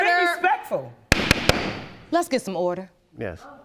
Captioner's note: banging gavel